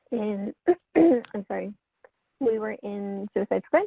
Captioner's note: clearing throat; voice muffled